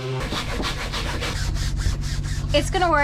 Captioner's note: rough scrubbing